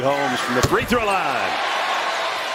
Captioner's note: cheers and applause